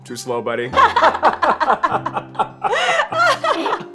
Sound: laughing

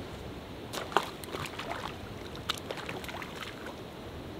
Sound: water sloshes

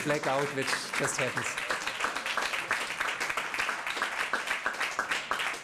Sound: applause

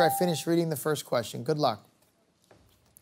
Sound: answer button rings

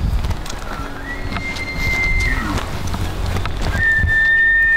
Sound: elk bugling

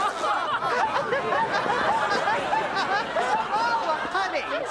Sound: laughing

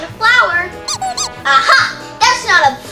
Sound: squeaking sounds

